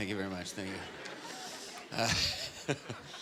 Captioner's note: laughing